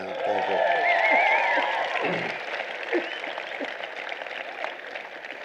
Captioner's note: cheering